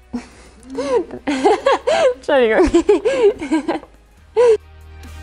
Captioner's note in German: Lachen